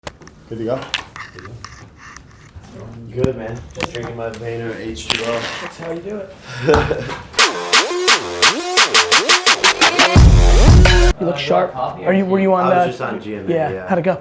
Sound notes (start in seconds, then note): 6.5 laughing; 7.4 techno music